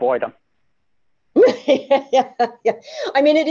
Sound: laughter

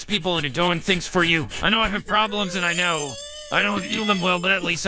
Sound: Belch

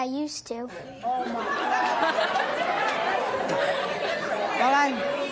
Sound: audience laughing and talking excitedly

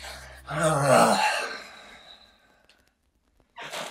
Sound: Ezra sighs

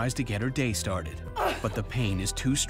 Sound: woman groans

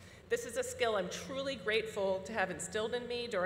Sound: none

